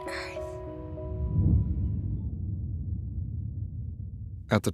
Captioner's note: whispers